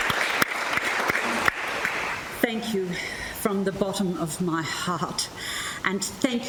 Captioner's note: applause continues; applause fades